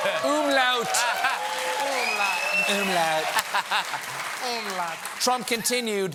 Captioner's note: laughter